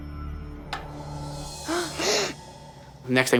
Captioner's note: boys gasp